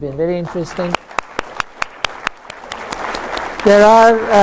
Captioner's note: applause